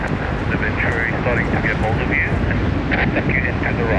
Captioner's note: speaking faintly